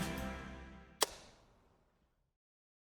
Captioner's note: clap